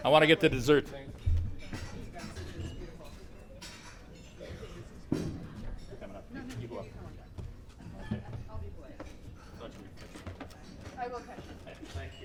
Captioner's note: background chatter